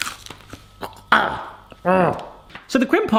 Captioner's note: grunting